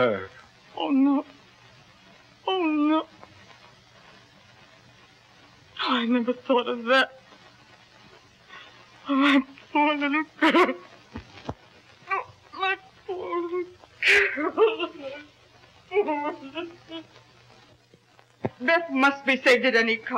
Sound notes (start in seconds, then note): 15.1 sobbing